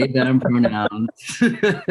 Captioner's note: all laughing